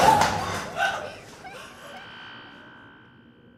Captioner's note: laughter